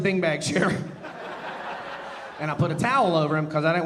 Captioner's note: audience laughing